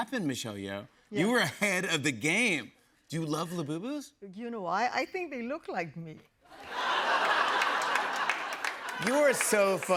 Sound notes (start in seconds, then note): 6.5 laughter